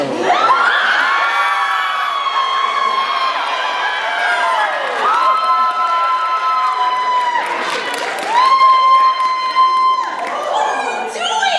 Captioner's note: cheering